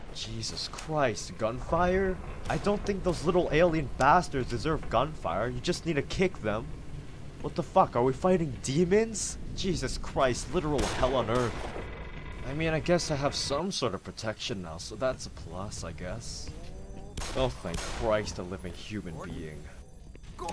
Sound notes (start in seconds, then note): 0.1 gunfire; 10.6 gunfire, metallic creaking; 17.1 gunfire